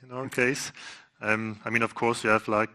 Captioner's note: laughs